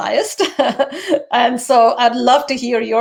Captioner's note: lady laughs